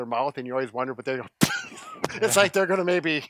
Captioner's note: laughs